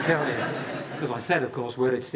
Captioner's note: laughter